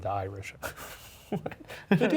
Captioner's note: Ryan laughing